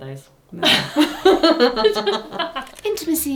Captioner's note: pair laughs